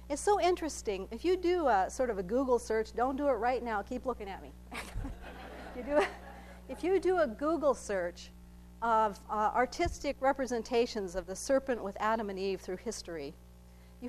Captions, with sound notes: It's so interesting, if you do sort of a Google search, don't do it right now, keep looking at me. (laughing) If you do a Google search of artistic representations of the serpent with Adam and Eve through history,